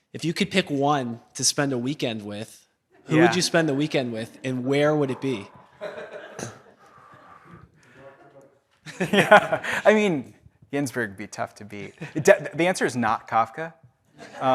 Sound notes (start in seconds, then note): 5.9 audience laughs; 8.8 laughs; 14.2 audience laughs